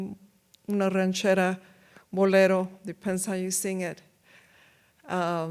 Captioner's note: speaks in foreign language